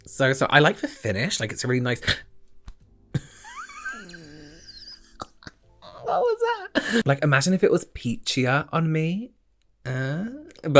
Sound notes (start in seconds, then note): 3.8 chokes